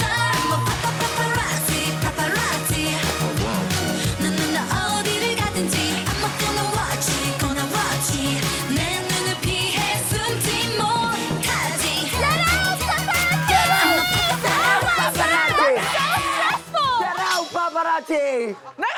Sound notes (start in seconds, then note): 13.2 screaming sound effect